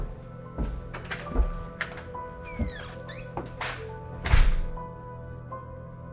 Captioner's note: door clicks and thuds; soft dramatic music continues